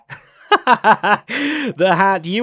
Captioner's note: laughs